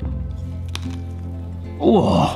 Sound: crunches

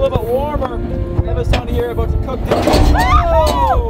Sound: banging

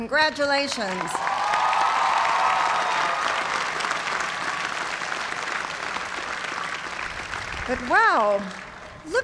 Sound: cheers and applause

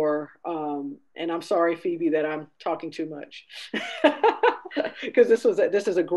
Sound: laughing

